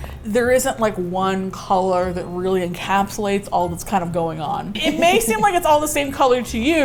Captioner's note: laughs